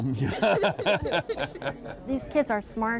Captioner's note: laughs